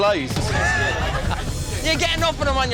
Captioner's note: laughing